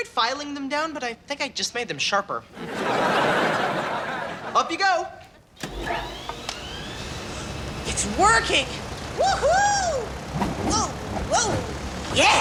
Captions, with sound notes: - I tried filing them down but I think I just made them sharper. (audience laughs) Up you go. (fans whirring) - It's working. Woohoo! Woah, woah, yeah.